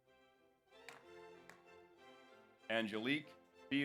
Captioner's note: audience applauds